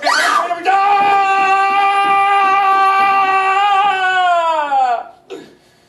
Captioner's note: Wheatley screams in pain